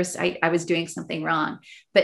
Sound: none

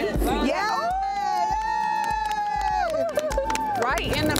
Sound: women cheering

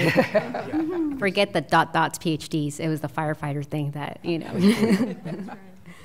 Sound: laughter; laughter

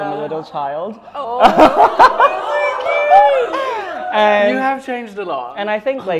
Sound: laughter

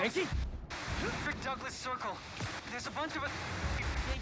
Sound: static

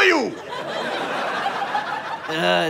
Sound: audience laughter

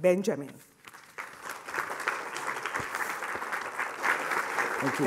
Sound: audience applauds

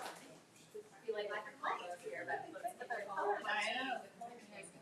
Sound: people chattering

